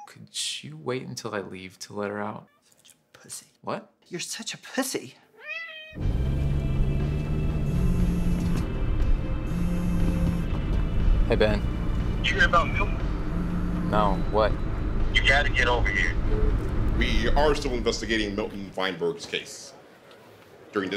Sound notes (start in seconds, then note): 5.3 meowing; 6.4 dramatic music; 9.4 phone buzzing; 16.1 phone beeps